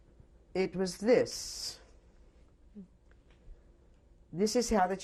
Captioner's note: pauses for 3 seconds